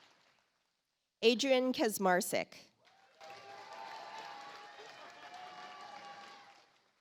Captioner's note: audience applauds